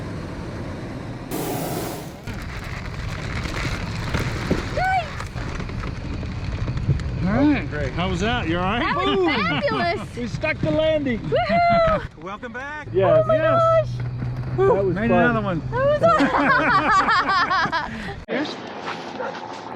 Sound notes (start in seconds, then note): 4.9 woman screams; 16.0 both laugh